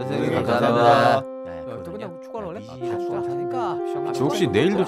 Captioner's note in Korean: 웅성웅성